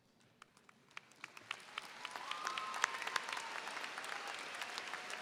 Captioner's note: audience applauds